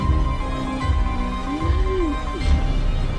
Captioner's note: Natasha breathes